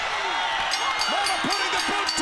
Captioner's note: bell dings